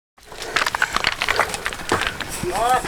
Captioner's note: rocks tumbling; heavy breathing